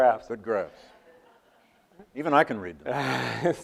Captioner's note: audience laughs